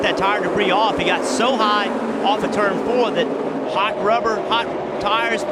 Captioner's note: engine revving